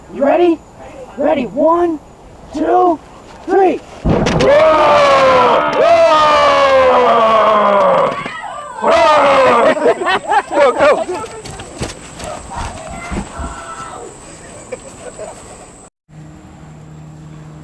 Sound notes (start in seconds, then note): 4.4 boys making horrible noises; 7.9 girls screaming